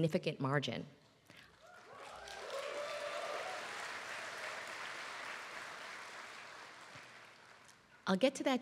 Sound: applause

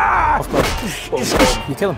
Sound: whack!; smash!

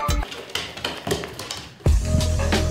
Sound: dog shaking; chill electronic music

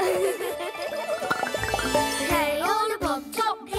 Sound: laughing; popping

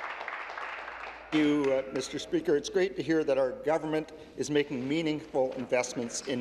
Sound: applause

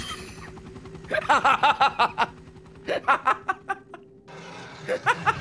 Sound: laughs

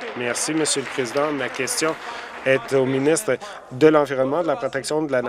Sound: applause

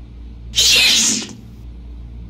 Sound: sneeze

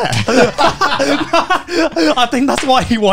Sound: laughing

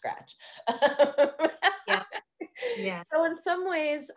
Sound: laughing

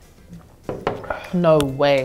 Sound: glugging; glass thuds

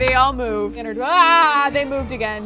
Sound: groans

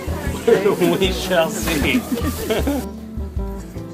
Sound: laughing

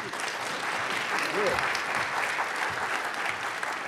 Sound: audience applauds

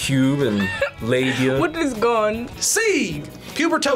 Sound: laughs

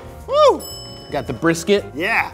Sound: bell dings

